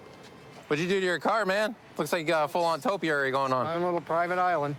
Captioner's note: none